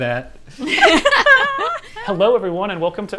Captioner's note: laughing